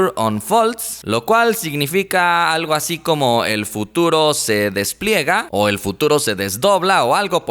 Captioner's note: in Spanish